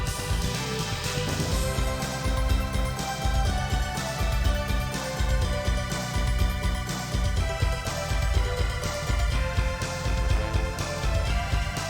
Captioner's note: clap